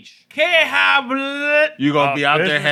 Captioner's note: speaking Spanish